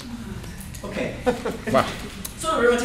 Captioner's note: laughter